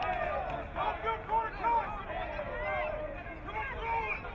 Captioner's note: crowd cheering